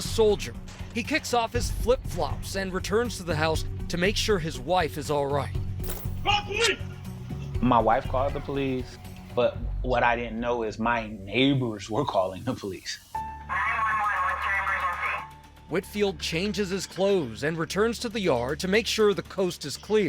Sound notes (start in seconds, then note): 12.9 garbled police radio chatter